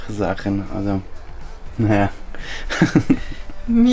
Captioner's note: laughter